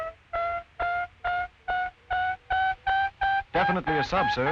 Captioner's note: loud rapid ping